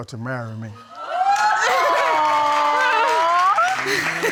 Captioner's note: audience cheering